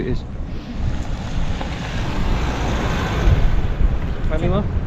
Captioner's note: truck rumbling